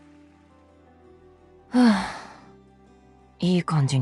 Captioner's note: sighs